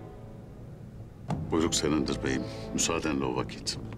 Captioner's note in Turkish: El vurma sesi